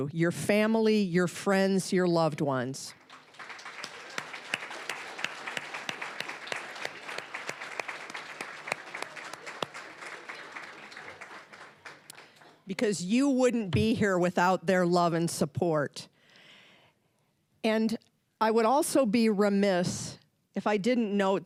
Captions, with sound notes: Your family, your friends, your loved ones. (applause) Because you wouldn't be here without their love and support. And I would also be remiss if I didn't note